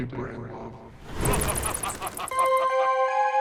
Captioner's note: creepy laughing; horror music playing